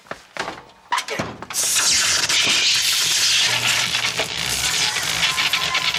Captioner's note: electricity hissing and buzzing